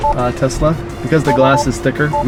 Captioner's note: beeps